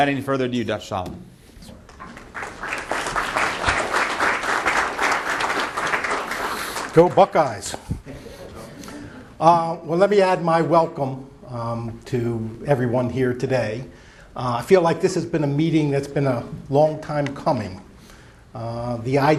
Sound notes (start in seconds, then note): 5.3 applause